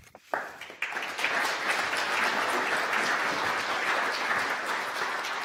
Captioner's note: audience applause